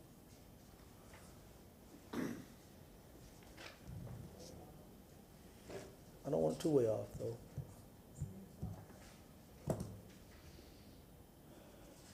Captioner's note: off microphone